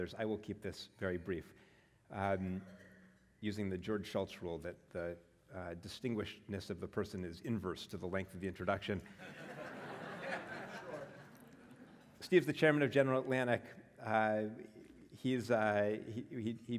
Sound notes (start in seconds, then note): 9.3 laugh